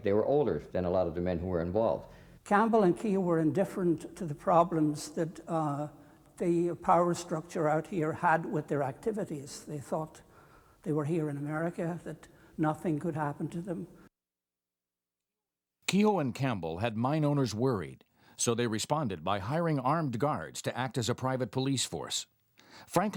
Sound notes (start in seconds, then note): 16.1 voiceover